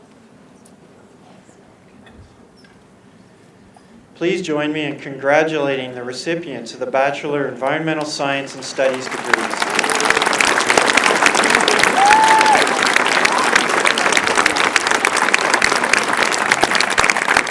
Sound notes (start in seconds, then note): 8.5 applause and cheering